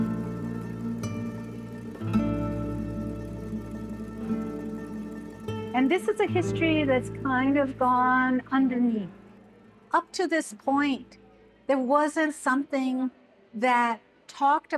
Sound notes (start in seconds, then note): none